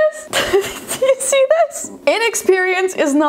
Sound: laughs

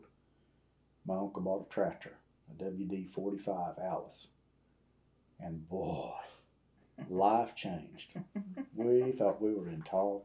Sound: laughter

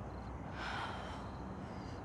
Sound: sighs

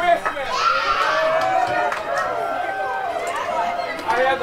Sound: cheering, clapping

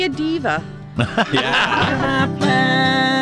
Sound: laughs

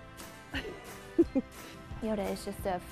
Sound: giggling

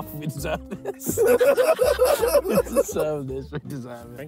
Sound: laughing

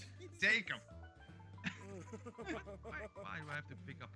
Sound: laugh

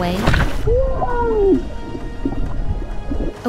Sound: squeals underwater

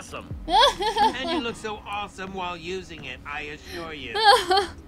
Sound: Sabrina laughs

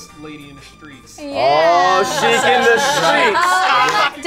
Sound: male Voice

